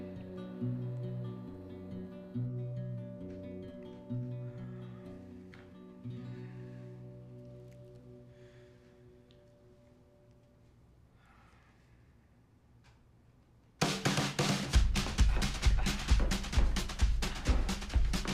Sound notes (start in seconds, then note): 4.7 Mark sighing; 13.9 playful uptempo music